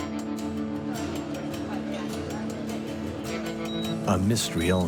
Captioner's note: dramatic music; people chattering